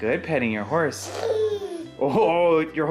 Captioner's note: babbles